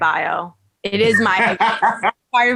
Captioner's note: laughing